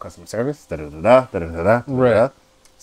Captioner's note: humming